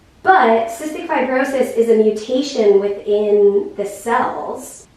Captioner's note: none